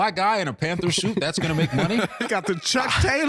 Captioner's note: laughing